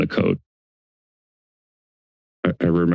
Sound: silence

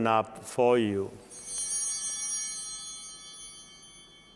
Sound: altar bells ringing

